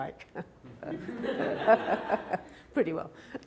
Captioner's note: laughing